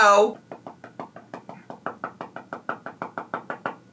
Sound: taps phone

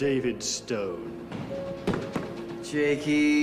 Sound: footsteps

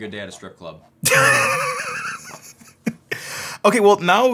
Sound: laughs loudly

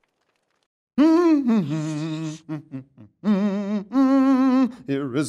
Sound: awkward silence; Erwin humming

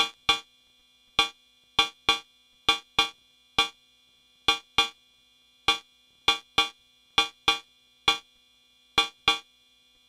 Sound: white and metallic noise filtered with peak at about 3.5 KHz

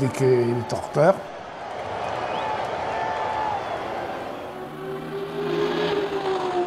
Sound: applause

